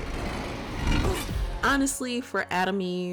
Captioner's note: Atom Eve swooshing